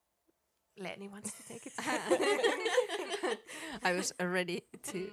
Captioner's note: laughter